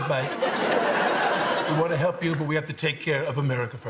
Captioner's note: laughter